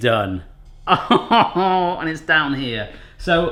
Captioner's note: laughs